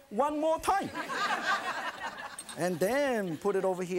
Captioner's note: laughing